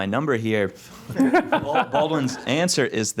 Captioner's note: chuckling